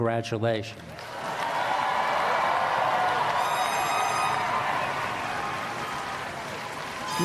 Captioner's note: applause